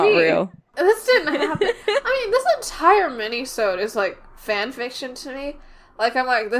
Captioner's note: laughs